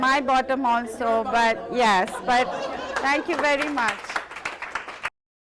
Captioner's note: applause